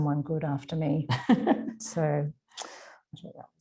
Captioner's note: laughing